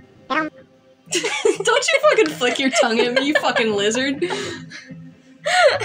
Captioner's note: snicker; laugh